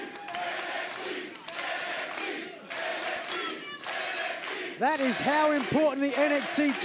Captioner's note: fans chanting